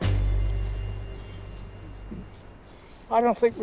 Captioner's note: soft rustling